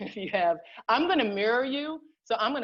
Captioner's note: laughter